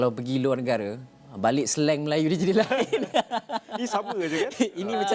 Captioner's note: laugh